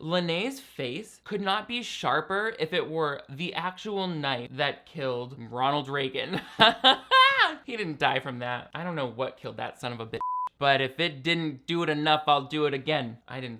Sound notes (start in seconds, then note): 6.4 laughs; 10.2 beep